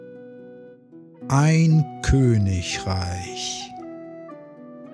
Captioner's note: german